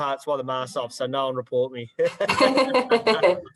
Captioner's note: laughs